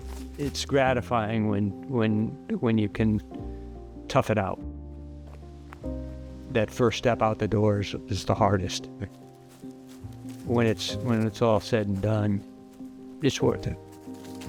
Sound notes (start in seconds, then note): 4.6 leaves rustle in wind; 8.5 leaves crunching; 14.1 leaves crunch